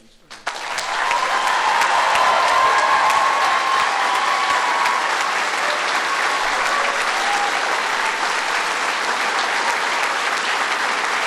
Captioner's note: applause